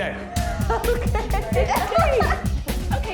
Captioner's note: laughs